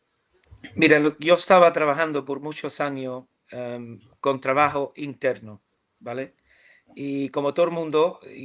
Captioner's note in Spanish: carraspeo